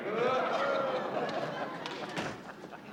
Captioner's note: laughter